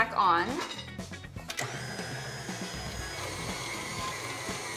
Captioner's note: mixer whirling